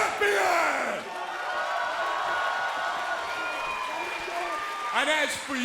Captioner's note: crowd cheering